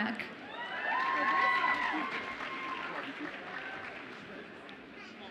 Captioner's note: audience applauds and cheers